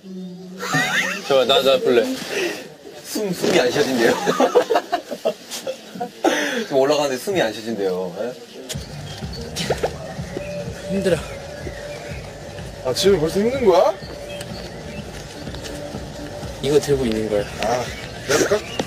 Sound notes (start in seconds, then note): 0.5 laughing out loud; 9.0 have a hard time breathing